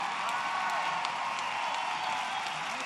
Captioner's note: applause